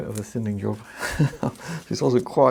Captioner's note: laughs